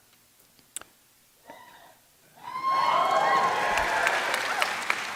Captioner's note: cheering